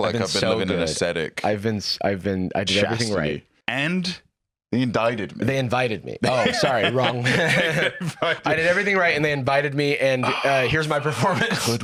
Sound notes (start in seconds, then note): 6.2 laughs